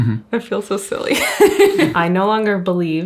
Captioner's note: chuckles